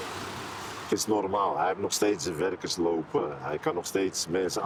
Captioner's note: Dutch spoken audio